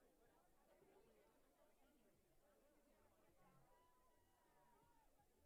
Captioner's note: crowd muttering continues